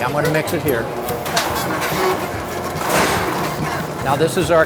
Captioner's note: machine whirs